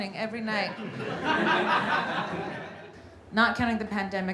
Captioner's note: audience laughing